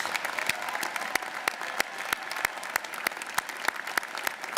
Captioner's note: audience applauding